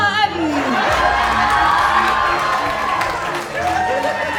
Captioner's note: cheering